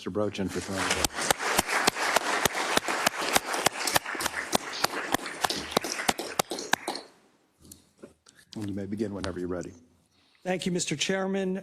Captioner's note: applause